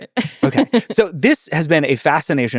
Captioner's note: laughing